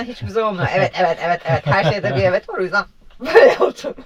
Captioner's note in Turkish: kahkaha